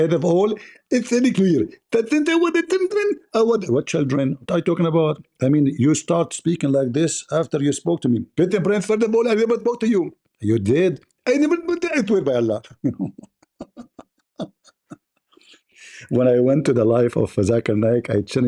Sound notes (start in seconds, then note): 12.8 Ketawa